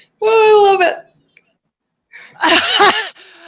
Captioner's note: laughter